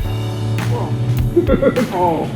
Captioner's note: laughing